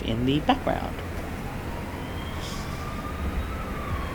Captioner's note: sound of ambulance